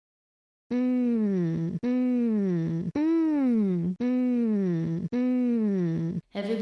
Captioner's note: voiceover